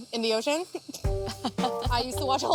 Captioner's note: laughing